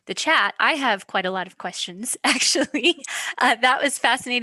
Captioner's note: giggles